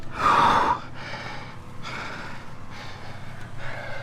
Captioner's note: intense Nonstop Breathing